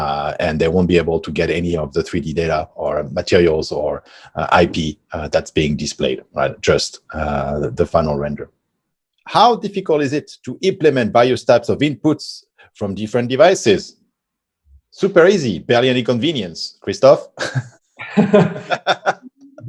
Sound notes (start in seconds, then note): 18.0 both laugh; 18.0 laughs